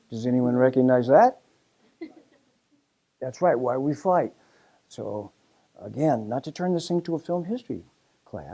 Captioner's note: laugh